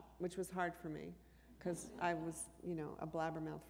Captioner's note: laughter